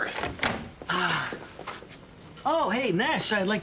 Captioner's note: Joe sighs